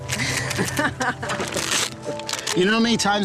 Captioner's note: laughs